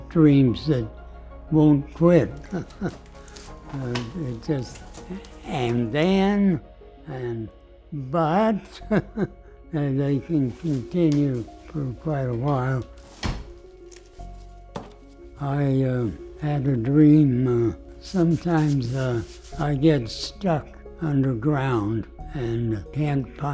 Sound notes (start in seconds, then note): 2.3 laughter; 8.7 laughs